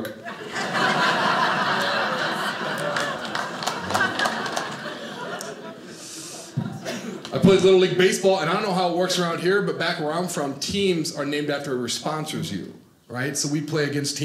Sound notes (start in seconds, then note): 0.2 audience laughing; 2.9 crowd clapping